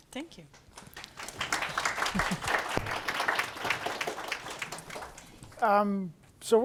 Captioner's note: applause